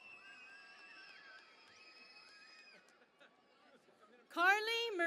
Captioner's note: cheering and Applause